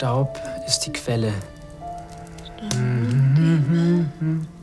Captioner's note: hums; summt